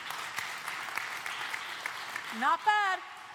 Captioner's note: applause